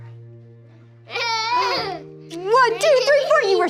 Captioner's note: student laughs